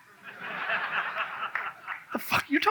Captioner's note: audience laughs